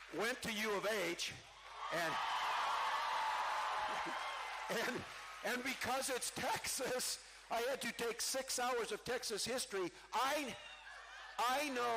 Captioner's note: cheering